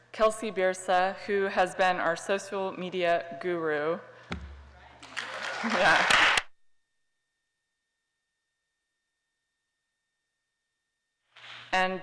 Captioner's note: applause